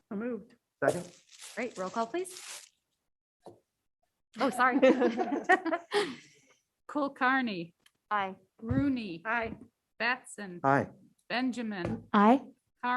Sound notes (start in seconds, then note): 5.5 laughs